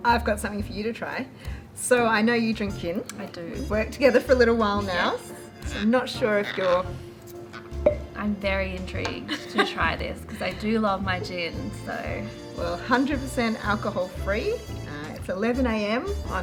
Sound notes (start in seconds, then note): 7.3 bottle popping; 9.2 laughing